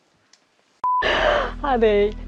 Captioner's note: beep